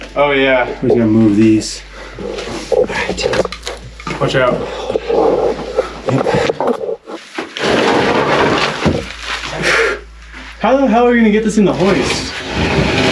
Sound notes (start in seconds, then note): 7.8 wood scraping together